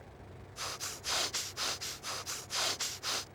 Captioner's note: huffing